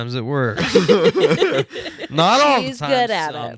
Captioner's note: laughing